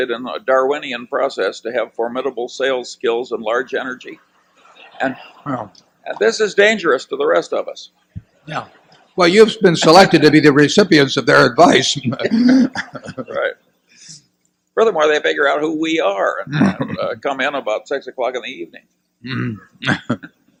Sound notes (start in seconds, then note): 4.3 laughter; 7.9 laughter; 11.8 laughs